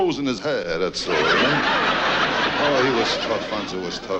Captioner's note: audience laughs